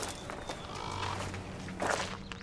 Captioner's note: crow caws